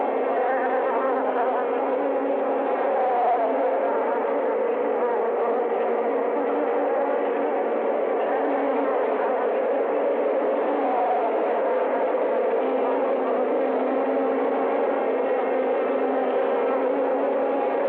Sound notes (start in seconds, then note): none